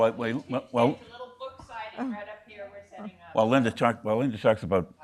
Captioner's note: woman chattering